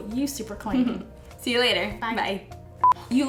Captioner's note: chuckles